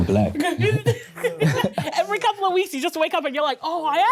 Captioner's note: laughing